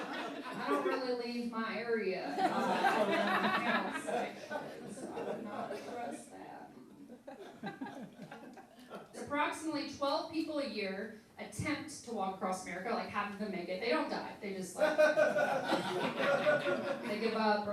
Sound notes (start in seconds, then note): 2.3 laughing; 14.8 laughing